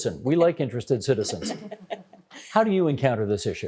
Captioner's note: chuckling